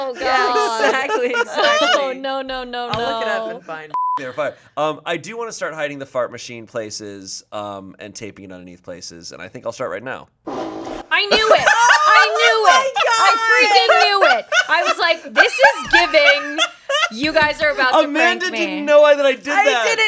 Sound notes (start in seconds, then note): 3.9 beep; 10.5 fart machine farts